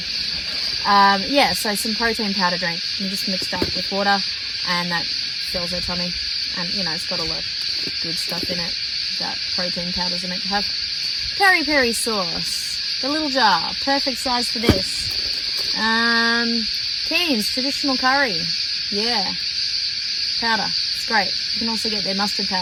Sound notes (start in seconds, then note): 14.6 jar thuds into box